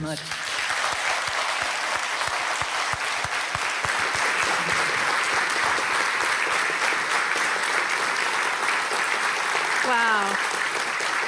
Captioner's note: applause